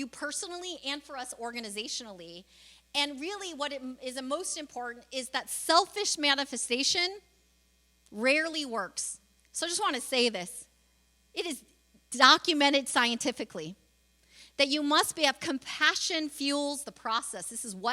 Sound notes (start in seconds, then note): none